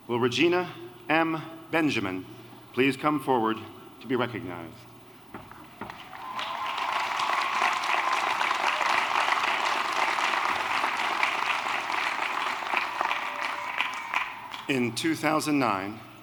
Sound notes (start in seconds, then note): 5.9 applause